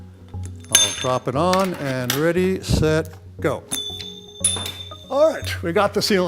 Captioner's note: ring makes clinging sounds